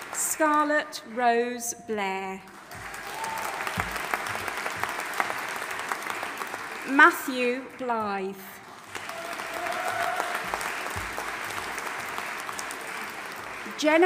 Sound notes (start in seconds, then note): 2.5 audience applauding and cheering